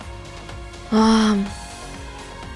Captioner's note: exhales